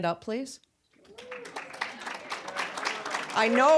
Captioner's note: applause